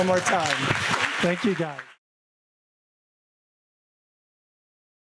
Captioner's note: audience clapping